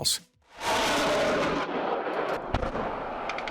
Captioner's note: rocket roaring; explosions blasting